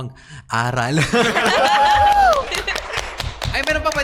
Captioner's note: applause